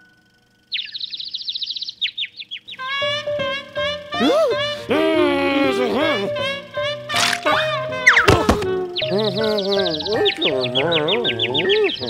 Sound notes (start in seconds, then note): 0.6 birds chirping; 2.8 trumpeting laughter; 4.8 frustrated grumbles; 9.0 birds chirping; 10.3 confused grumbles